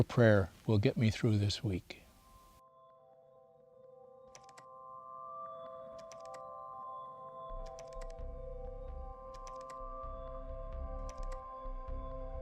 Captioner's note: instrumental music plays; keyboard clacking